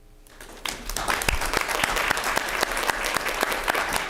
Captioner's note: clapping